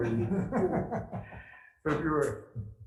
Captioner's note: laughs